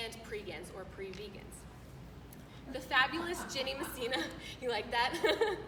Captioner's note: laughter